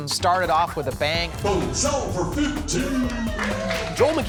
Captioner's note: cheers and applause